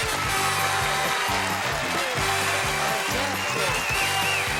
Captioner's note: applause